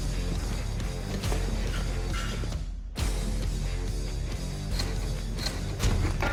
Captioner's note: blade impact sounds